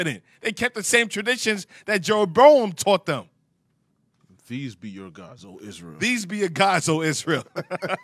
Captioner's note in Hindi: हस रहा